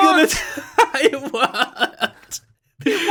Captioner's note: laughs